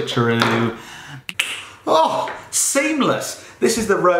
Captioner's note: snaps